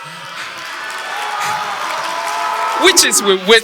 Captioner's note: audience applause